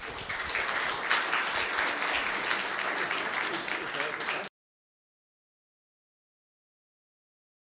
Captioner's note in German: Applaus